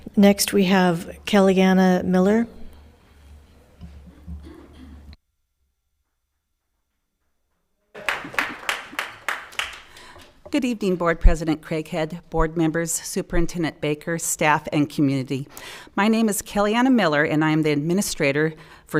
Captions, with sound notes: Next we have Kellyanna Miller. (audience applauding) - Good evening, Board President Craighead, Board members, Superintendent Baker, staff and community. My name is Kellyanna Miller and I'm the administrator